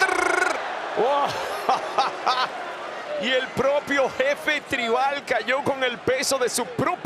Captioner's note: laugh